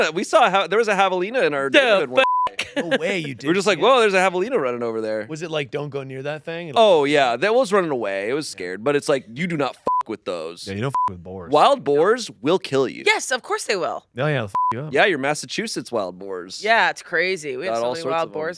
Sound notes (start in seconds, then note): 2.1 beep; 2.5 laughs; 10.8 beep; 14.5 beep